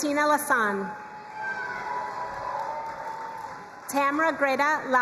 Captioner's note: crowd cheering and applauding